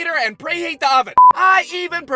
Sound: beep!

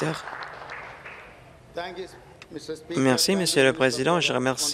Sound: applause

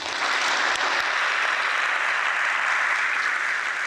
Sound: audience applauds

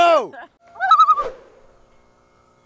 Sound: a loon calls

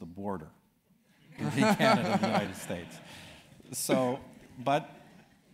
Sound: laugh

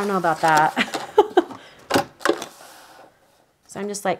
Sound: laughs

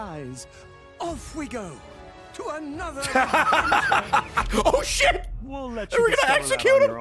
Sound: laughs

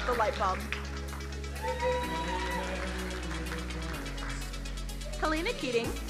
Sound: crowd cheering

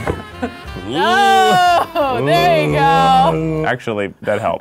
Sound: grunting; laughing

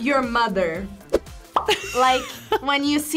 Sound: bubble pops; laughs

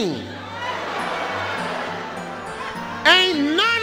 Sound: audience groaning

